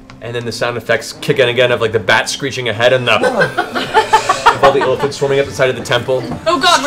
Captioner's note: inhales